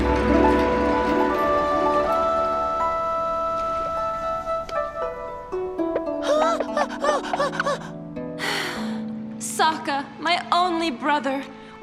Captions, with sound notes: [traditional music playing] [excitedly] Ah, ah, ah...! [sighs] Sokka, my only brother.